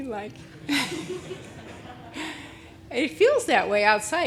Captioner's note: audience laughing